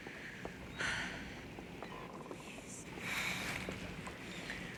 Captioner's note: Bess sighing